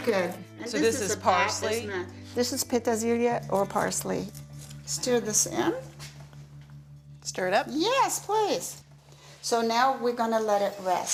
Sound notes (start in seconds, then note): 2.3 speaks in foreign language